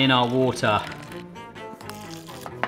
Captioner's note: water splashing; lively music